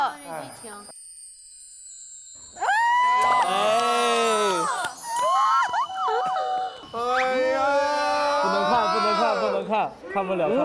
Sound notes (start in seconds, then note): 5.0 everyone is exclaiming